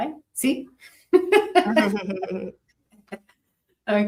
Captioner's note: risas